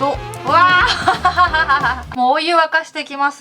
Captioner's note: laughs